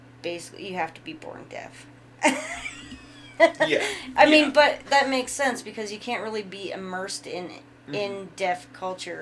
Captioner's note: laughing